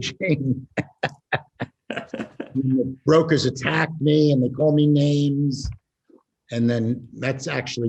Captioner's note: laughs